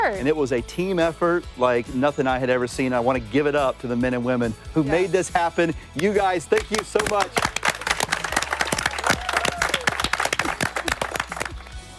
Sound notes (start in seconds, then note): 6.5 flip crew applauds